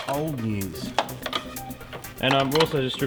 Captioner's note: clattering